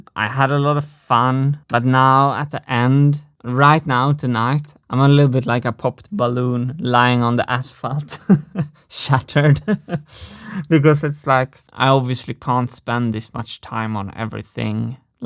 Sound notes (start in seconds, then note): 8.0 chuckles